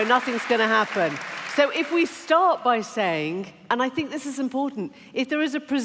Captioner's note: cheering and applause